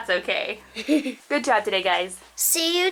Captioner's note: giggles